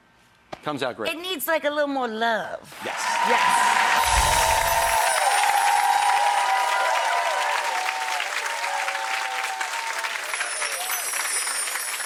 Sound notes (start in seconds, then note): 4.5 crowd applause